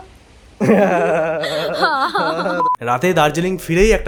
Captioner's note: makes weird sounds to show themselves laughing